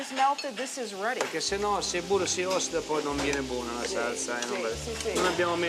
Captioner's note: speaking Italian